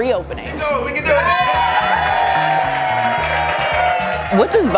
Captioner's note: cheers and applause